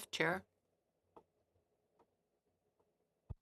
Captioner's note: speaking in French